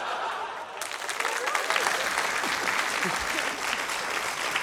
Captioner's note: applause